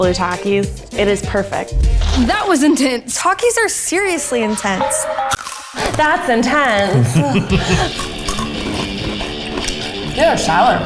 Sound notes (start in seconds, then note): 5.4 crunch; 6.4 all laughing; 7.9 crunching